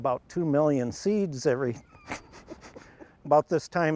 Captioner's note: laughs